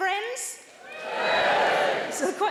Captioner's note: audience cheering